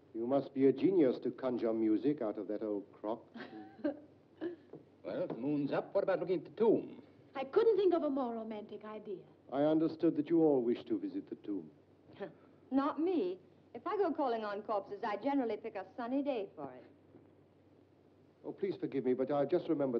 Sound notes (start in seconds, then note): 3.4 June chuckles